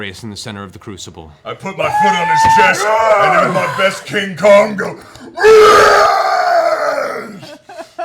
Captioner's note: yells